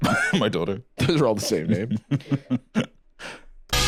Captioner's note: laughs